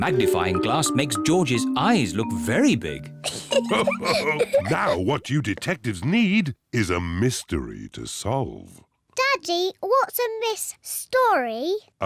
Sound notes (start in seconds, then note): 3.2 both laugh